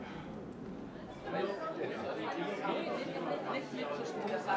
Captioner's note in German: Stimmengewirr